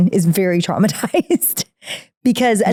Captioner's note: laughing